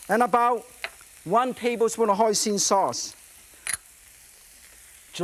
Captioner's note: none